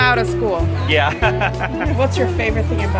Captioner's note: laughter